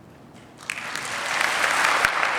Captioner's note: applause